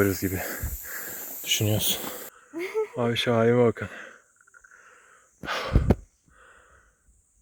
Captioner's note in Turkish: iç çeker